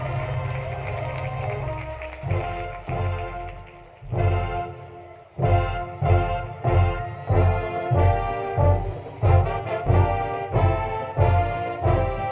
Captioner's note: applause